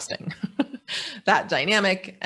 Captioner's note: laughing